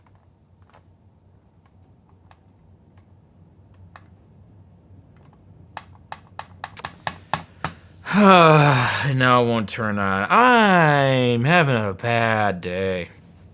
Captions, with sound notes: (clicking) (sighing) And now it won't turn on. I'm having a bad day.